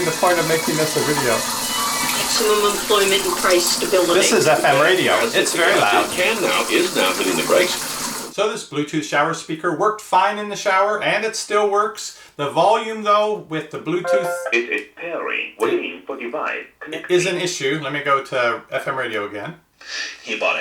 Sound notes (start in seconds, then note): 2.6 woman On Radio; 6.3 man On Radio; 14.7 electronic Voice; 20.5 man On Radio